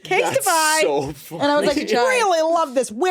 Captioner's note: laughs